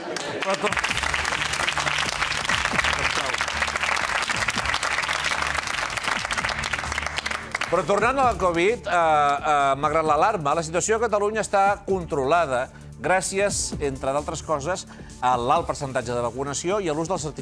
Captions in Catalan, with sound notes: Sí, bueno, jo no tinc res a veure amb Abidal... Ho sento... Ha colat? (aplaudiments) Però tornant a la Covid. Malgrat l'alarma, la situació a Catalunya està controlada gràcies,